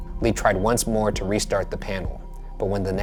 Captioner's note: none